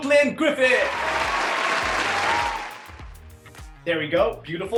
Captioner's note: applauding